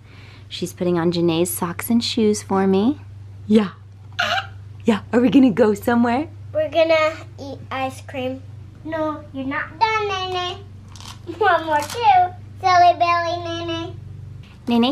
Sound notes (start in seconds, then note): 4.1 squeaks